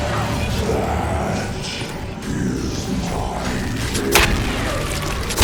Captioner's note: demon voice